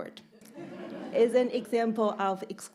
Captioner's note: audience laughing